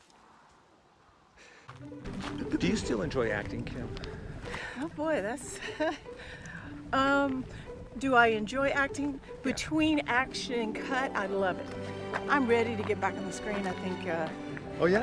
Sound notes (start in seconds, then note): 0.5 blows air; 5.5 chuckles